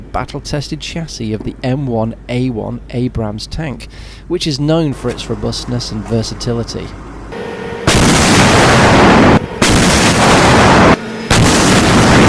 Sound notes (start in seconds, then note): 7.8 tank Firing